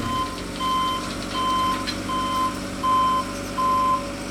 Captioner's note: truck beeping